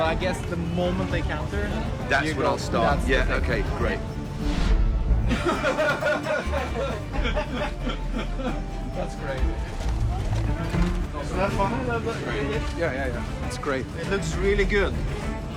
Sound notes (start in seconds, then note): 5.0 all laughing